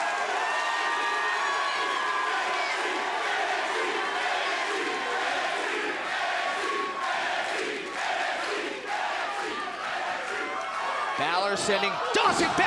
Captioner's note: crowd cheering